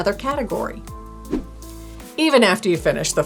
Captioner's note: air whooshing